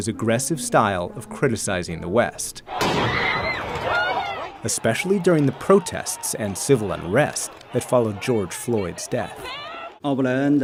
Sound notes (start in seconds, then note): 2.7 people screaming; 2.8 gunshot banging